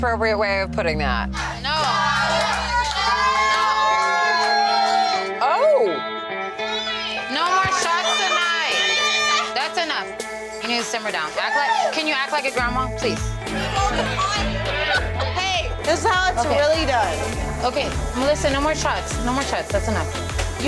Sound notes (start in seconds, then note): 1.6 shouting